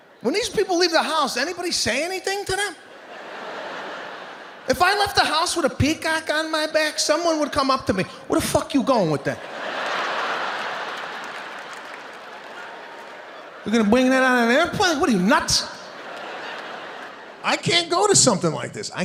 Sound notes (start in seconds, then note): 1.9 audience laughing; 9.3 audience laughing and clapping